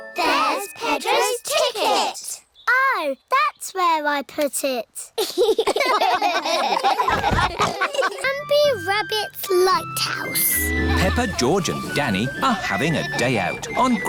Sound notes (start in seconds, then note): 5.2 all laugh